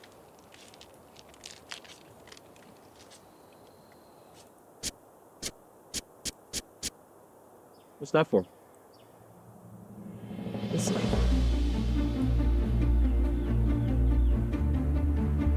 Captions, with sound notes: (Whittling) What's that for? You'll see. [Heroic music]